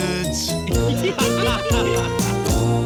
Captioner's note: laughing